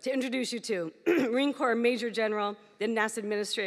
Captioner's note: clears throat